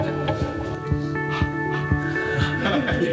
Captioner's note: exhales; laughter